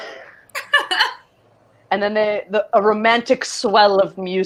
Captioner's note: laughing